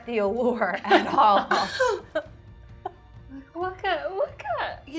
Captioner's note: laughing